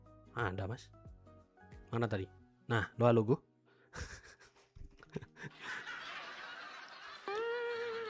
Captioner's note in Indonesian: tertawa